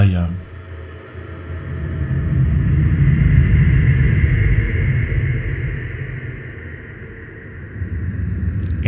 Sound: spooky soundscape

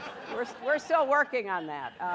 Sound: laughter

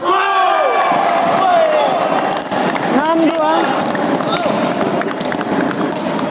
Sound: applause

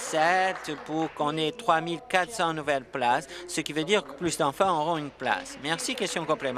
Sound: applause

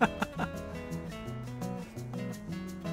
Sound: laughter

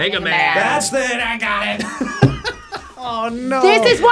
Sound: buzzer barks; laughs

